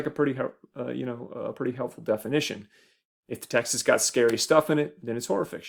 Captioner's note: none